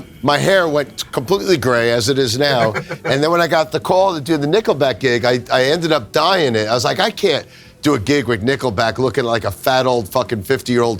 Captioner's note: laughs